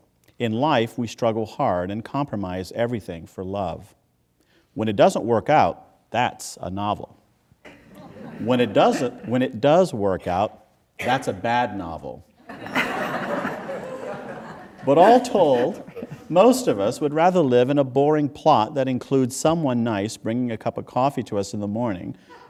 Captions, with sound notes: In life we struggle hard, and compromise everything for love. When it doesn't work out, that's a novel. [Laughter] When it does work out, that's a bad novel. [Laughter] But all told, most of us would rather live in a boring plot that includes someone nice bringing a cup of coffee to us in the morning,